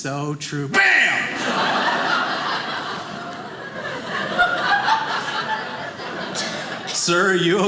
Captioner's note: audience laughing